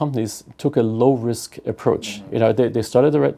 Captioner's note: laugh